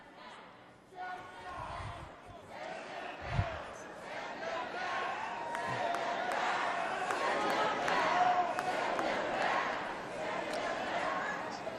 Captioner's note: crowd booing; crowd chanting